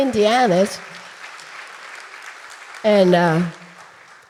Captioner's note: audience applauding